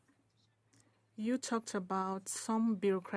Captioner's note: speaking French